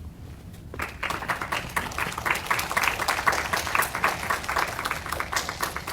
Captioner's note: audience applauding